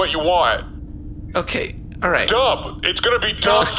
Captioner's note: shouting